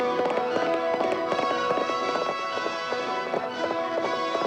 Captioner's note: horse galloping